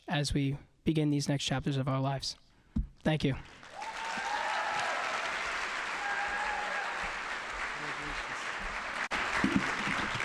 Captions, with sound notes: as we begin these next chapters of our lives. Thank you. (audience applauding and cheering)